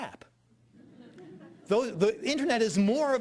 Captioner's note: audience laughing